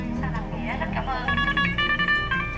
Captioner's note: radio crackles in foreign language